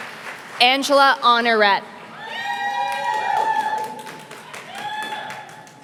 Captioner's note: applause